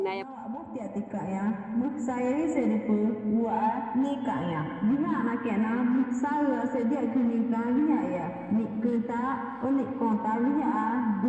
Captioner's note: Speaks in Tukano